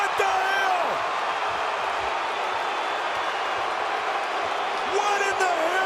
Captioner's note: audience shouting